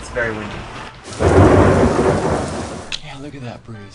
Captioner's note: thunder sound